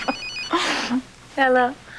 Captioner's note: cellular phone rings; laughs